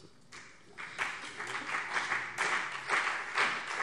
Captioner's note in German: Beifall CDU und BÜNDNIS 90/DIE GRÜNEN